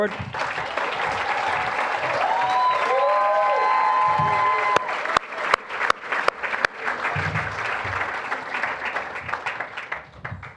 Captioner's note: applause, cheering